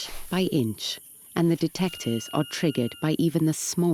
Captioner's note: detector sounds